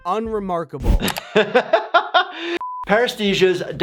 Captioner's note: doctor laughs